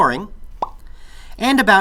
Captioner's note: popping sound effect